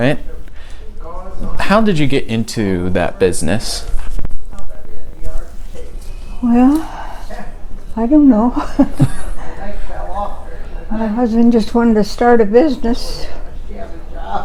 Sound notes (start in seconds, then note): 8.3 talking in background